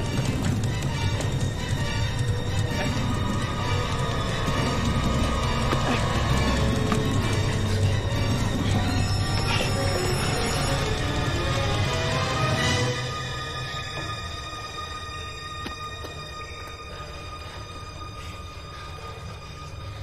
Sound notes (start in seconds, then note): 0.3 scary music; 9.3 breathing heavily; 17.6 music fades